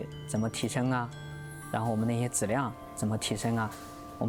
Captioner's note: speaking chinese